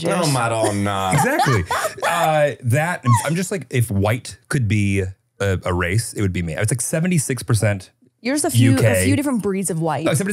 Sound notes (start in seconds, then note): 0.0 laughing; 1.1 foreign language